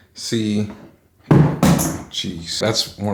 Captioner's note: banging sound